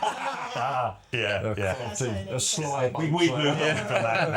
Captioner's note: laughter